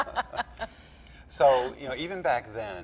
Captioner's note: laughs